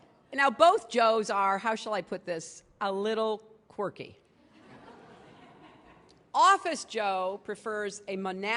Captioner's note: laughter